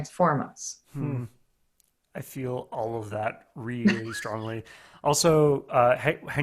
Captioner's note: hums